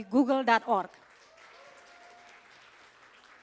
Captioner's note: applause